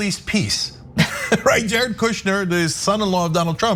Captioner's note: laugh